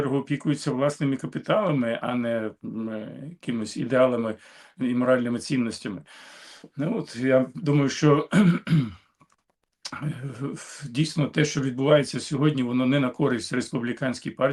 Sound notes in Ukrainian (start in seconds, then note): 8.2 кашель; 8.2 прочищення горла